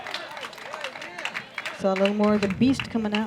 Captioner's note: applause